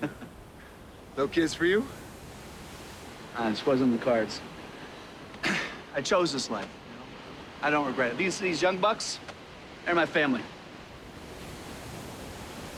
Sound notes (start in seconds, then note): 0.0 chuckles; 5.4 sighs